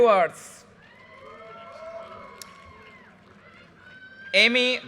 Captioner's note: audience cheers and applause